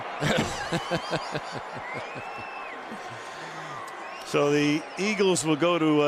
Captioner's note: laughter